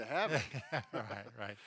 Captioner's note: laughs